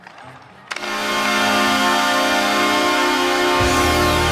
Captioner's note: Calgary Flames goal horn